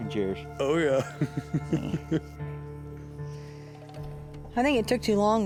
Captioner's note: laughing